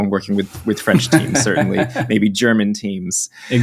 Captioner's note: laughs